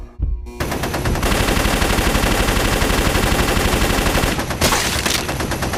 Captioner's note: gunfire